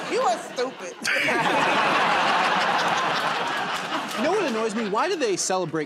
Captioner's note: laughter and applause